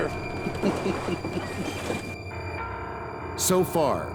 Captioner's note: chuckles